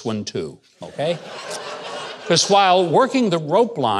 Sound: audience laughing

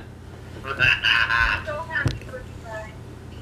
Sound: laughs

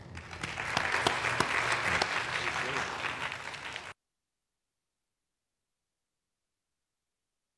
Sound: applause

